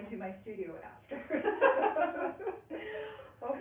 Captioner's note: laughing